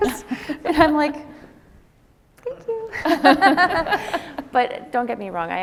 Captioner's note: laughs